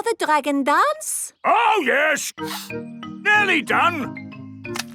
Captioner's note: sniffing